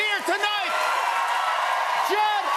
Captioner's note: cheers and applause